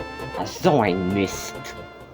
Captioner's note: speaking German